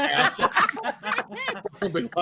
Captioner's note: all laughing